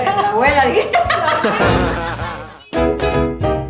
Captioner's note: laughter